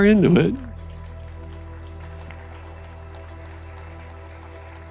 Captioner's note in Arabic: تصفيق